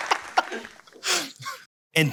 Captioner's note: laughing